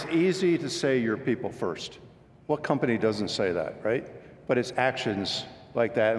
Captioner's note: applause